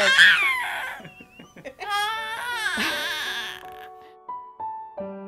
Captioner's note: laughs